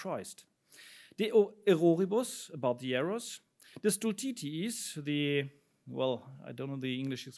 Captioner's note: speaks in foreign language